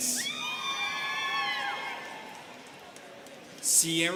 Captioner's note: students cheering